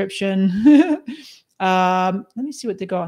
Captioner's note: laughs